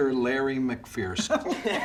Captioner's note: laughter